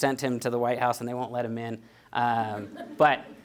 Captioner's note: audience laughing